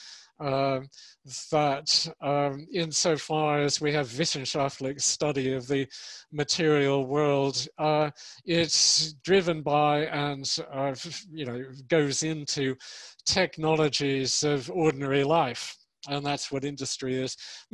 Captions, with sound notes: that in so far as we have (speaks in foreign language), study of the material world, it's driven by and goes into technologies of ordinary life. And that's what industry is.